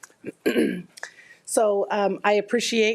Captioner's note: clearing throat